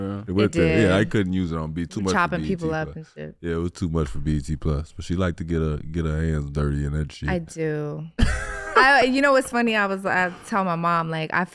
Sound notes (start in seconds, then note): 8.2 Iman laughing